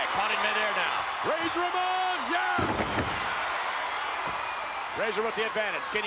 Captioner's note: spectators cheering